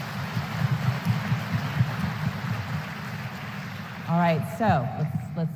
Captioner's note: applause